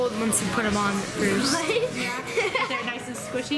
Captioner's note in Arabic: يضحك